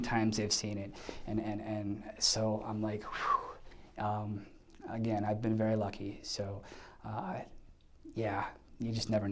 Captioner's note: exhales